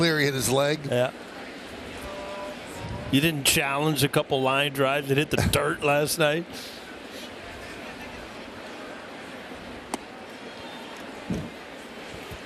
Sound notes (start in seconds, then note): 5.5 laughter